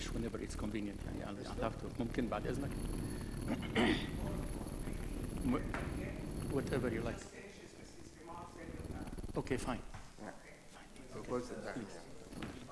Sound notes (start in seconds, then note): 2.3 speaks in foreign language; 3.7 clears throat; 4.5 speaks off microphone; 7.7 speaks off microphone; 10.9 speaks in foreign language